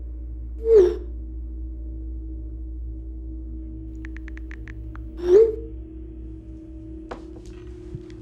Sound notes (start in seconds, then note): 4.0 texting